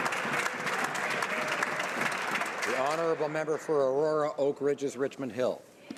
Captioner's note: some Applause